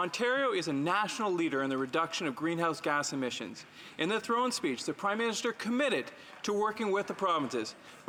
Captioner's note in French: voix de l'interprète